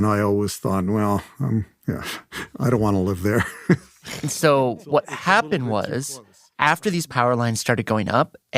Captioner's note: laughs